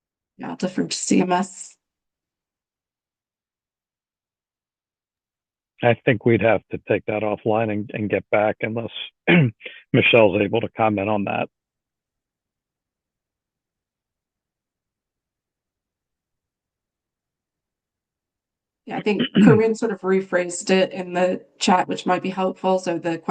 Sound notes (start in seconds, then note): 16.6 pause